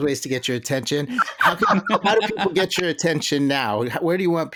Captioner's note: laughter